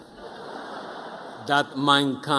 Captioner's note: audience laughing